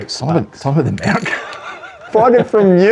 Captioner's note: laughs